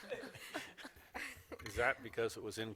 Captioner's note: laughter